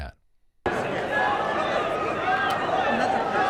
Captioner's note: crowd shouting